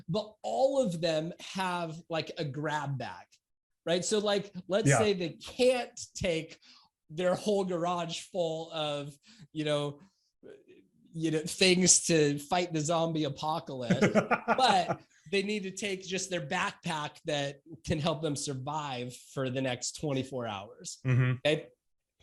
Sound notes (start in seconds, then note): 13.8 laughs